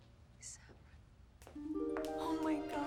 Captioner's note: whispers